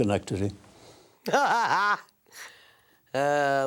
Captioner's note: laughs